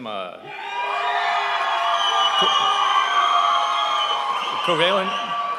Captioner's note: audience cheering